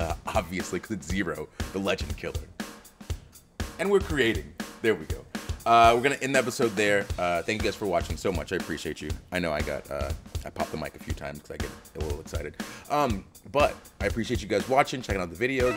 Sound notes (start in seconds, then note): none